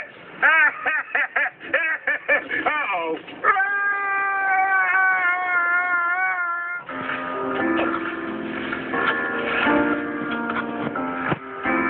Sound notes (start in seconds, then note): 0.4 laughing; 3.4 screaming